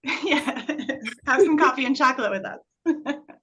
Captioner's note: chuckle